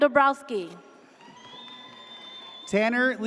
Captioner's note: audience cheers